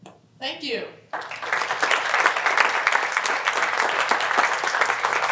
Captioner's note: applause